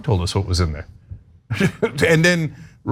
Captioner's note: laugh